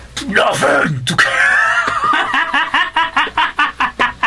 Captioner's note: laughs